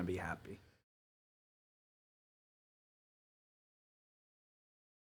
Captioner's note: silence